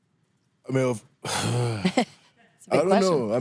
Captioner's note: sighs